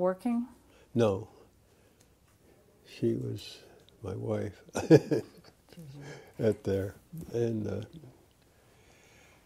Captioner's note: laughter